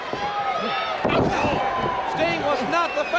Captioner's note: Ric thudding on ring